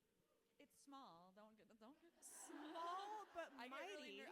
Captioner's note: audience laughing